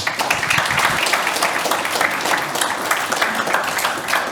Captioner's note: audience applauding